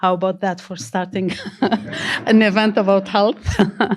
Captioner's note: all laugh